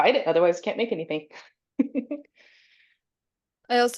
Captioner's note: chuckles